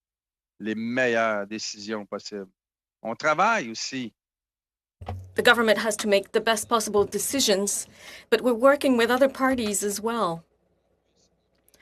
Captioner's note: speaking in french